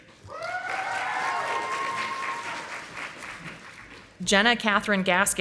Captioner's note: audience applauding